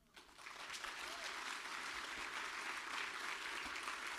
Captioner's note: audience applauding